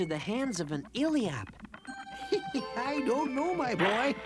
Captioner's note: chuckles